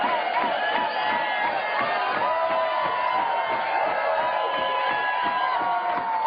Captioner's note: chanting "mitt, mitt!"